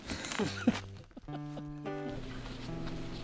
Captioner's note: laughter